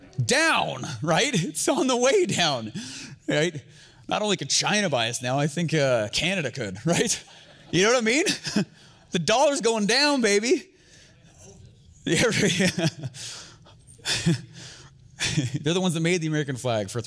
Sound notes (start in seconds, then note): 12.2 chuckles